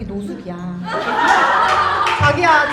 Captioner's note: clapclapclap